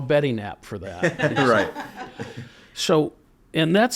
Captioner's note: group laughing